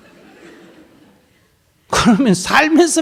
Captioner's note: audience laughter